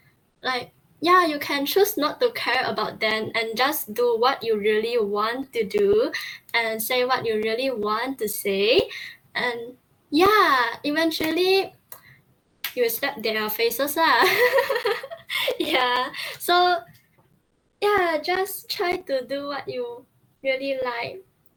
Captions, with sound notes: like - Yeah, you can choose not to care about them and do what you really want to do, and say what you really want to say, and - Yeah, eventually - you'll step their faces lah [laughing] Yeah, so - Yeah just try to do what you, really like